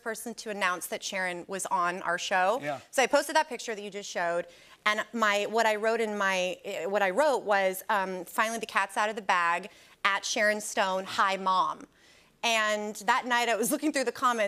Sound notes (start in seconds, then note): none